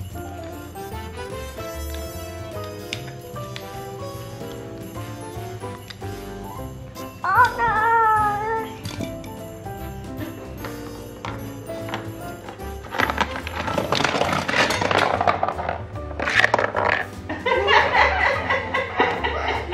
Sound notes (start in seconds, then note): 13.4 toy crashing; 17.3 mom laughing